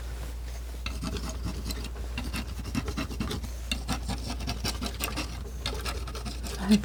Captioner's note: scratching